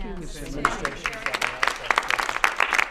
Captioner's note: applause